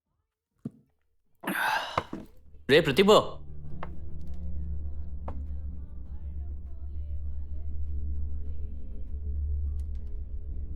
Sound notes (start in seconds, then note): 3.8 distant chatter, song